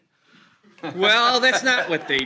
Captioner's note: attendees laughing